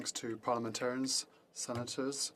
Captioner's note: speaking French